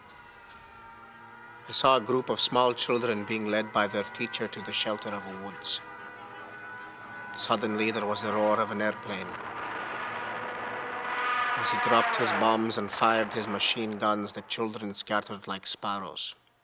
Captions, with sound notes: - I saw a group of small children being led by their teacher to the shelter of woods. Suddenly, there was a roar of an airplane. (airplane roaring) As he dropped his bombs and fired his machine guns, the children scattered like sparrows.